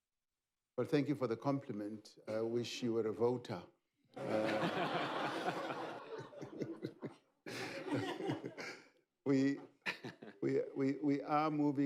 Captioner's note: laughter